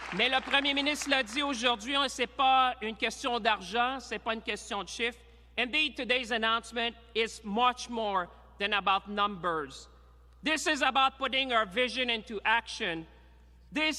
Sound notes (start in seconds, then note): 0.0 applause; 1.7 speaking in french